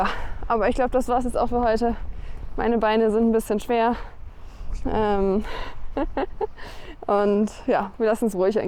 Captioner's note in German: gelächter